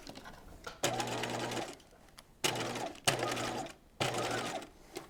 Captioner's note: sewing machine whirs